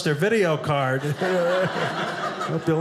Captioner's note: audience laughing